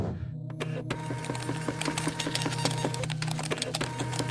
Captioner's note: machine humming